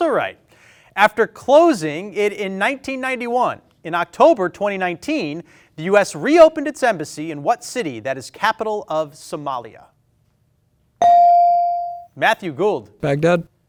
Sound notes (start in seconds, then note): 11.0 bell ring